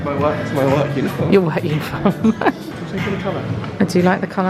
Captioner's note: laughing